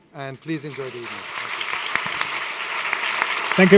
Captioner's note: applause